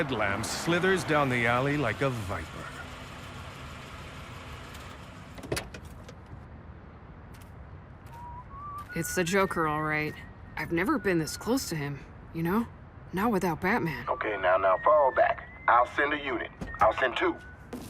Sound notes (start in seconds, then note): 2.4 engine rumbling; 5.3 door opens; 6.4 footsteps; 6.4 whistling